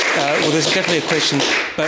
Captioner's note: applause